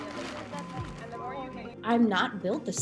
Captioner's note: girls chattering